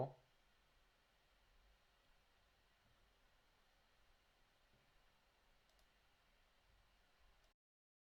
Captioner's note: silence